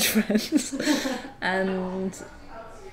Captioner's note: laughs